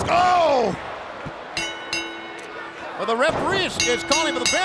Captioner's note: bell ringing